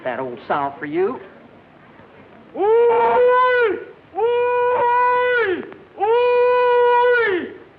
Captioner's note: hollering